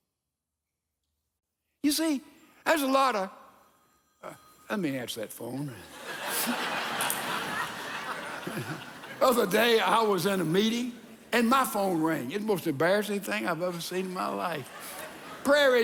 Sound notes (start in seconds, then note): 3.8 phone rings; 5.8 congregation laughs; 8.9 chuckles